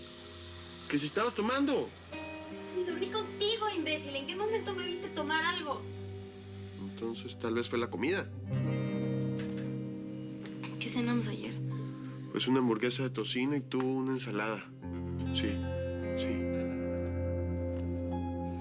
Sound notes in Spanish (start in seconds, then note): 0.0 Sonido al correr el agua